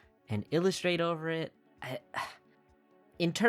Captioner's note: sighs